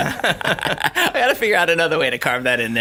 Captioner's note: laughter